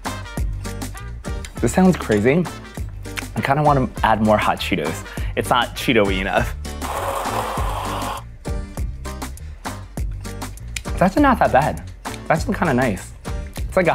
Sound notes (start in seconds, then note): 6.8 mixer buzzing